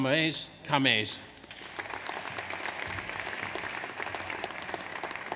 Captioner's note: audience applauds